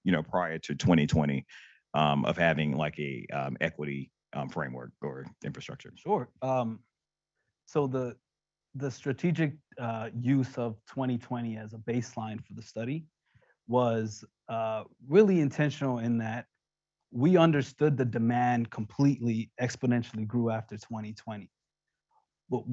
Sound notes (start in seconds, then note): none